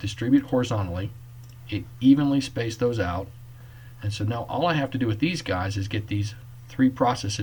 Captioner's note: click